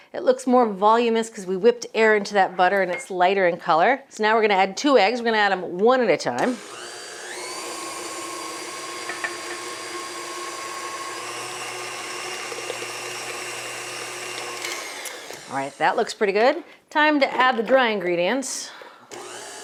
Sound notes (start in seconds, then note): 8.6 mixer whirring